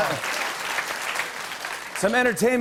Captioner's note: applause